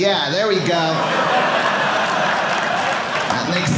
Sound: audience laughing

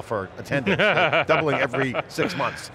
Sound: laughs

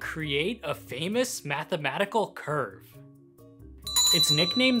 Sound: bell ringing

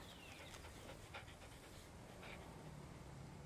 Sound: dog panting

